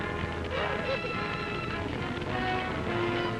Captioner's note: fire crackling; loud sobbing; dramatic music